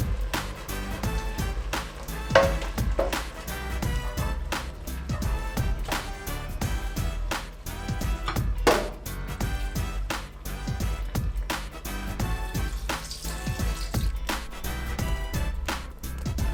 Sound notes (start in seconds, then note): 2.3 pot clanging; 8.5 plate taps; 12.5 water rushing